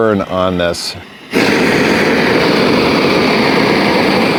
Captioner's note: torch roaring